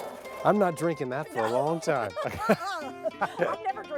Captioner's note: laughter